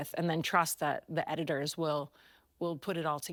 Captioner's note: none